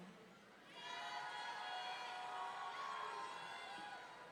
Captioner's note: audience cheering